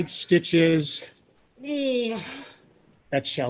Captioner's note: groan